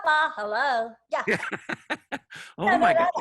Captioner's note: laughs